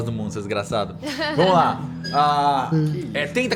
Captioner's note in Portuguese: risos